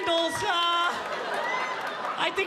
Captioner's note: audience laughing